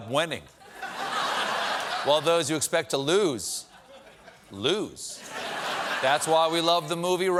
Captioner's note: laughter